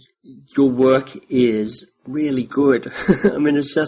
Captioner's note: chuckles